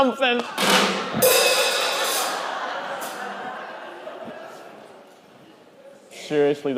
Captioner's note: cymbal clangs; group laughing